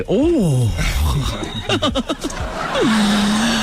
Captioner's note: laughing